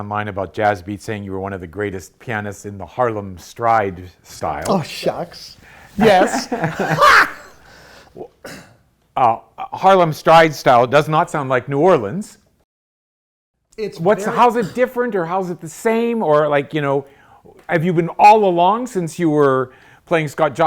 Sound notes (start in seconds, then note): 5.9 both laughing